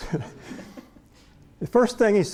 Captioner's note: laughter